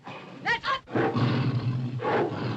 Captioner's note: tiger growls; tiger growls & snarls